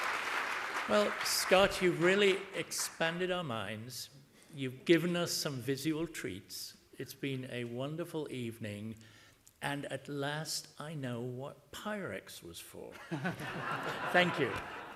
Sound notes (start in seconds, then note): 12.9 laughter